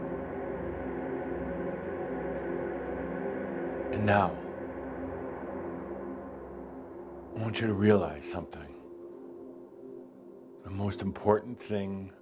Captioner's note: drone dies away to silence